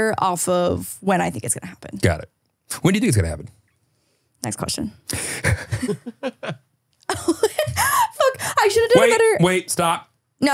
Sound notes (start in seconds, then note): 5.1 laughs; 5.2 everyone laughing